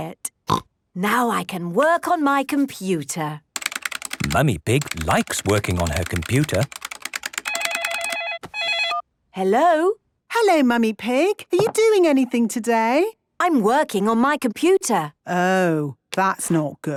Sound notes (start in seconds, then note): 0.0 snorting; 5.4 phone ringing